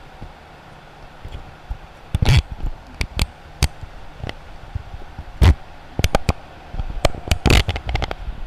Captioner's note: sound of inserting microphone into blimp shock mount